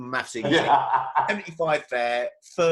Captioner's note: laughs